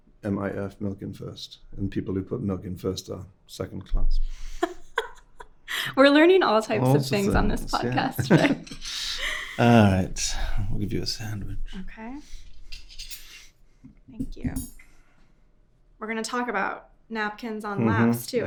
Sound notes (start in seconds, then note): 4.5 host laughing